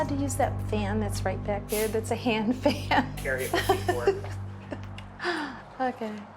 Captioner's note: laughs